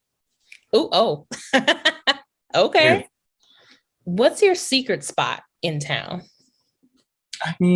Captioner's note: laughs